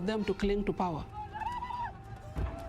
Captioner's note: hollers